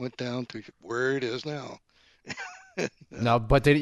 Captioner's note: laughs